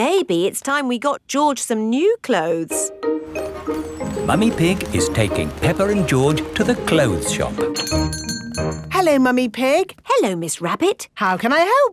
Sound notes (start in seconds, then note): 7.7 doorbell chiming